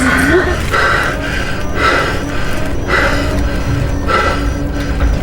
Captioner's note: Hawk breathing heavily